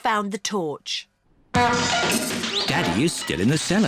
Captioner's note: crashing